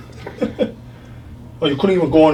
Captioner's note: chiropractor laughs